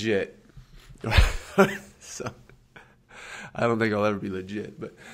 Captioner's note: laughs